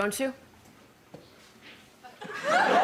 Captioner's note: laughter